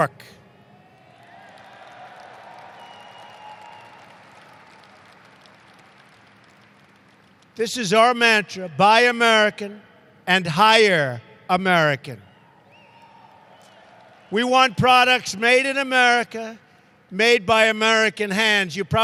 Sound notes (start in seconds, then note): 0.8 applause; 12.7 applause